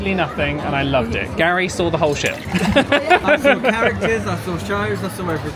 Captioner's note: laughing